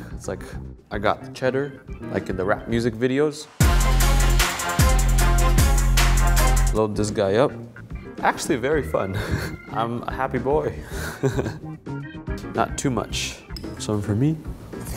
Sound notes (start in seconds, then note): 3.4 upbeat hip hop music; 9.0 laughs; 10.9 giggles